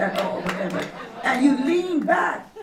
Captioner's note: laughter